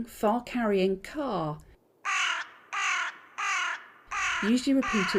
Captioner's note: bird song